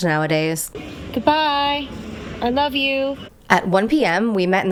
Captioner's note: hoots